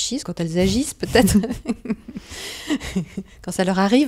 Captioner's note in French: rires